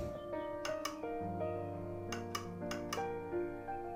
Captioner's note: switch clicking